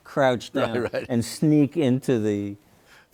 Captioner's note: chuckles